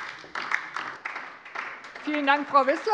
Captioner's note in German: Beifall DIE LINKE